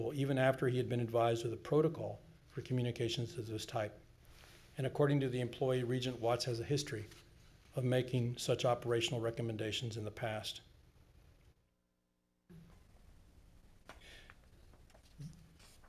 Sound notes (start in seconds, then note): none